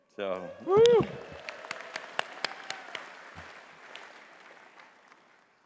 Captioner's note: audience cheering and clapping